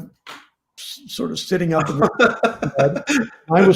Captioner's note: laughs